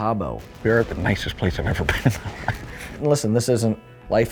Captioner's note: chuckles